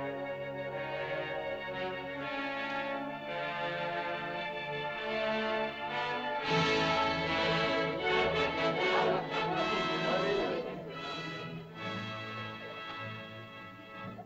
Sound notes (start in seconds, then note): 6.5 triumphant music; 8.8 indistinct caveman chatter; 8.8 triumphant music